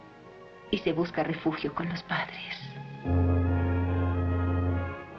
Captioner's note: train Whistle Blows